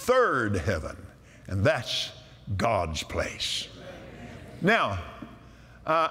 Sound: audience "Amens"

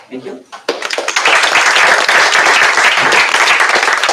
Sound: applause

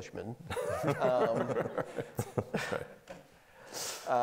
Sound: laughing

